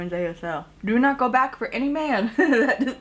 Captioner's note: chuckles